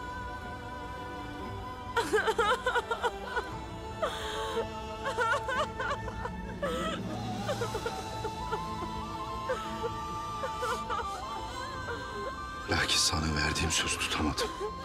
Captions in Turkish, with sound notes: (Ağlama sesleri.) Lakin sana verdiğim sözü tutamadım.